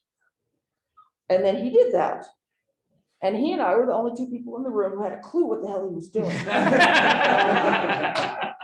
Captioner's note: laughter